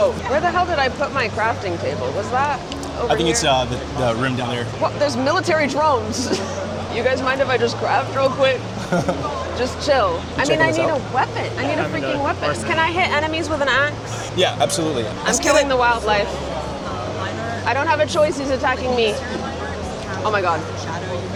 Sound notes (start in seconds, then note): 6.0 laughs; 8.8 host laughs